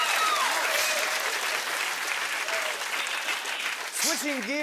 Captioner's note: cheers and applause